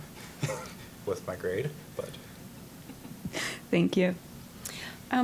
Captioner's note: chuckling